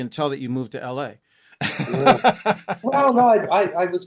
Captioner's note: laughter